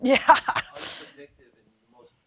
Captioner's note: laughing